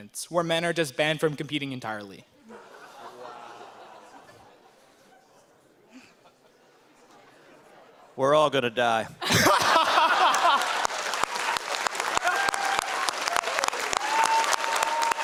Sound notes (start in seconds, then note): 2.5 audience groaning; 9.2 audience laughter and applause